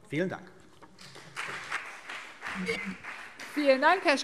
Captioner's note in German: Beifall CDU und BÜNDNIS 90/DIE GRÜNEN